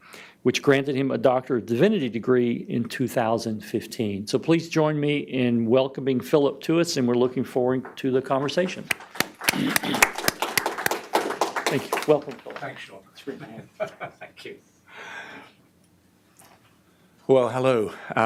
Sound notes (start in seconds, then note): 8.4 audience applause; 13.4 laughter